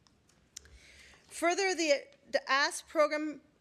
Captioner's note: none